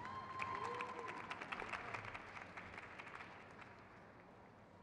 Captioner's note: crowd cheers